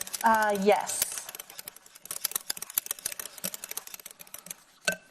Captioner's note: glass clinking